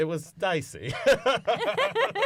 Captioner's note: laughter